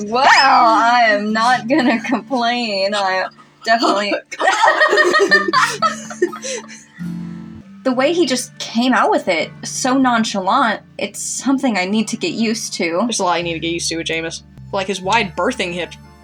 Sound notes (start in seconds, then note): 5.3 chuckle; 6.9 laugh